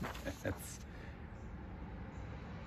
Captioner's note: chuckles